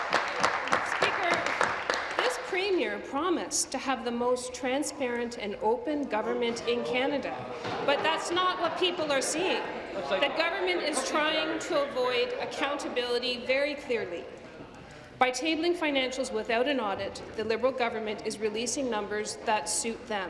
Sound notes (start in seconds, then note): 3.1 applause